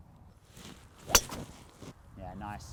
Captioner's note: thwack sound